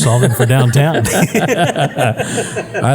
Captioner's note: laugh